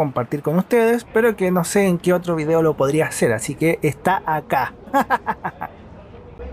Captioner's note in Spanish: risas